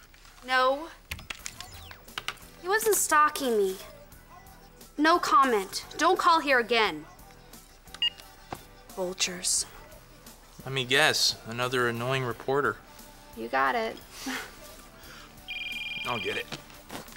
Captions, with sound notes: No. He wasn't stalking me. No comment. Don't call here again. Vultures. Let me guess. Another annoying reporter? You got it. [scoffs] -[phone ringing] -I'll get it.